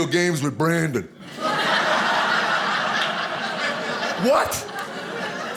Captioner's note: audience laughing